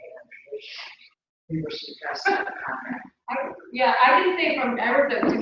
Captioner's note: laugh